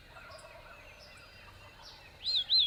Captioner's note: bird calling; turkey gobbles; bird whistles